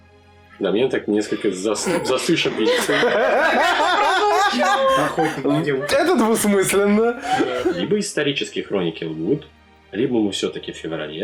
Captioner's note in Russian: Стол угарает